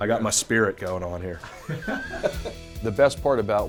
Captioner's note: laughing